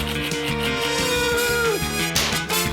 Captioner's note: groans; pop!